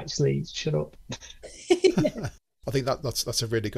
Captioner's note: group laugh